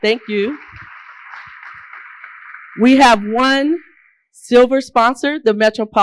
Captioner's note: applause